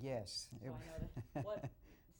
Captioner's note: chuckles